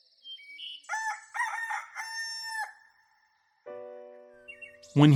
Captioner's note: crickets chirping; rooster crowing; piano music